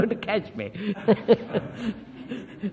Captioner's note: laughs